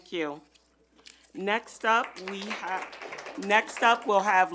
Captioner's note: audience applauding